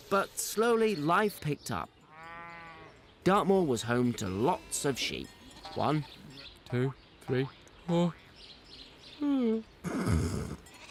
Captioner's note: yawn